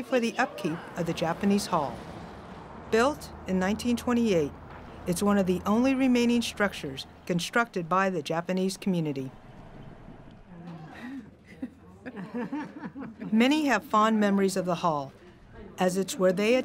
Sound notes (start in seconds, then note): 12.4 giggling